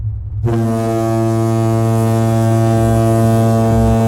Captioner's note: horn blaring